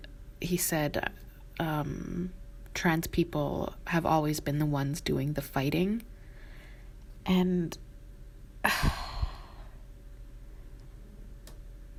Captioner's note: sigh